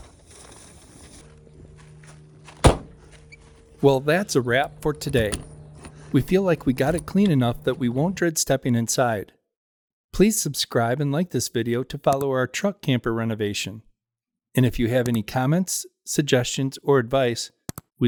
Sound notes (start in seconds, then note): 1.1 door Shut